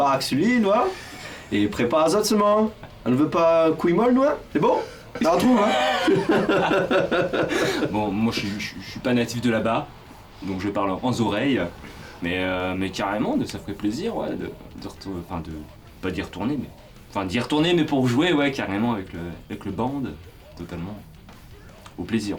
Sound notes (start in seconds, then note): 4.8 laughs